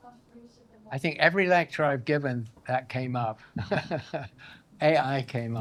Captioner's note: laughs